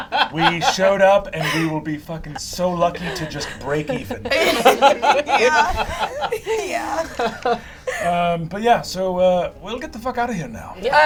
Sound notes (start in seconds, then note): 4.8 laughing